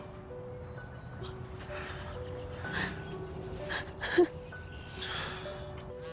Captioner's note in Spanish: Sollozos; Vibra el celular